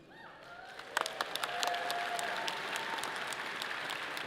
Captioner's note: audience applauds